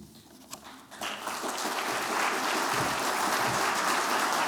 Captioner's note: applause